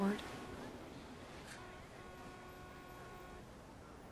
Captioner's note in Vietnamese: tiếng đường phố